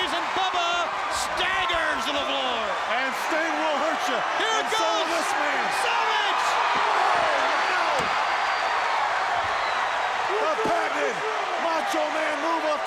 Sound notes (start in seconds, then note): 7.1 crowd cheers